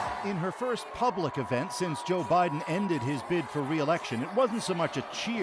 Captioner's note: cheers and Applause